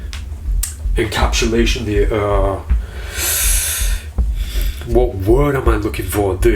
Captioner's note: inhales